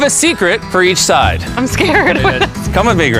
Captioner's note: laughs